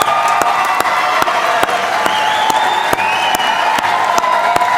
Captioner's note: applause